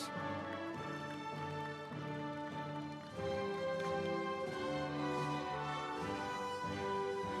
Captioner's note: audience applauding; instrumental music